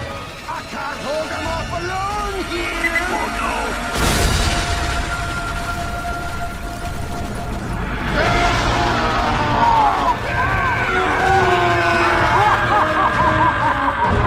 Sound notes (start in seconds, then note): 2.2 cart beeps; 3.7 boooommmmm; 8.0 screaming; 12.4 Pyro laughing victoriously